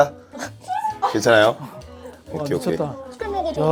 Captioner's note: haha